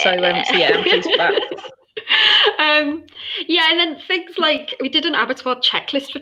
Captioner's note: laughter